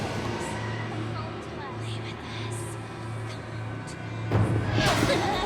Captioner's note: menacing music; voices whispering; figure whooshing